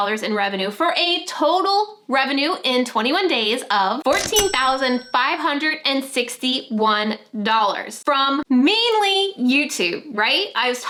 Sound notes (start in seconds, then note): 4.1 till ringing